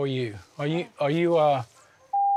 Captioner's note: beep